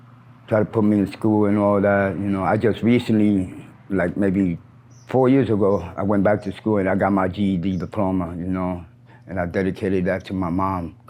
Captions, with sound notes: tried to put me in school and all that. You know, I just recently, like maybe four years ago, (bird chirps) I went back to school and I got my GED diploma, you know? And I dedicated that to my mom.